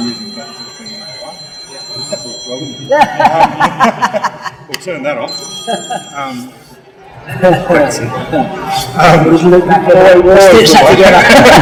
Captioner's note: phone rings